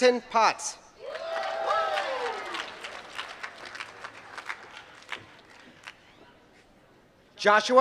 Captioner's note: applause